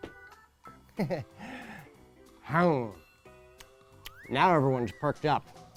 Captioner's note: man chuckles